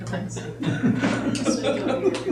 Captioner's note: laughter